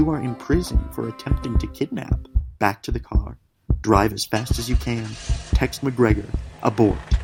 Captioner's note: a car starting